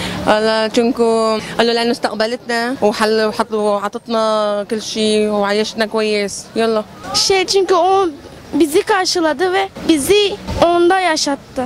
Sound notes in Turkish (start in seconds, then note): 1.3 arapça konuşuyor